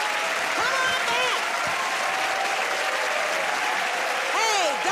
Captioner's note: cheers and applause